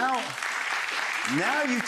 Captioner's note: audience applauds